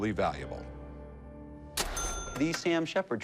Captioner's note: cash register rings